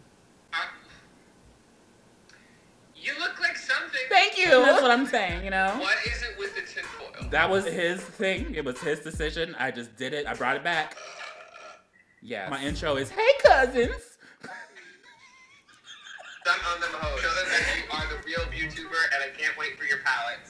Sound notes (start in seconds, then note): 10.8 burps; 14.3 laughs